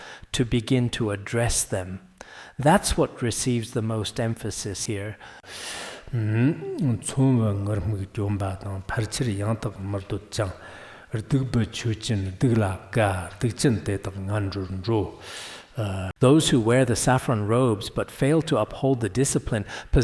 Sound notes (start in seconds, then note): 5.4 giving oral transmission in Tibetan